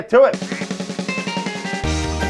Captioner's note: hand smacking; ducks quacking; lively upbeat music